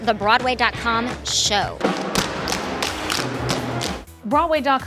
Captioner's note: tap shoes clatter